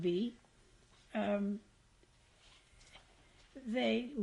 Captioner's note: pauses for 3 seconds